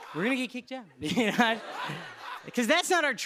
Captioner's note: laughs